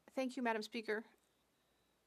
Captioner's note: speaking French